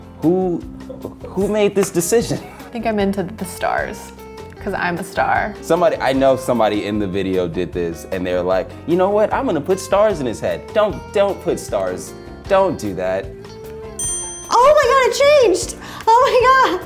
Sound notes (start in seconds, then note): 14.0 ding